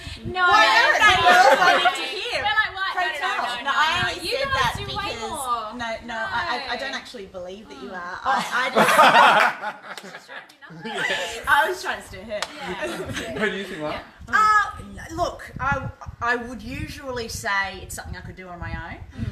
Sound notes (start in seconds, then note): 8.3 all laughing out loud!